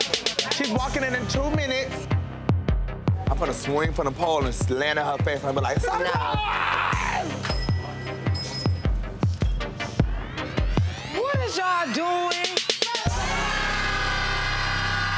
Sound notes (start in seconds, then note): 7.4 bell rings; 7.7 anxious electronic music